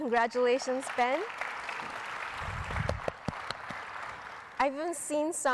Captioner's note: audience applauding